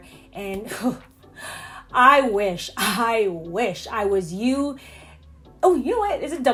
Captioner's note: sighs